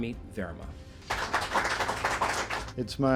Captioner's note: audience applauding